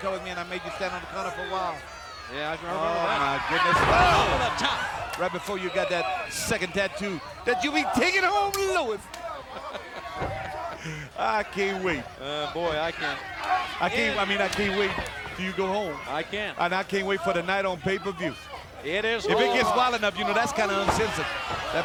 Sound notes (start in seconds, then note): 9.3 Dusty laughs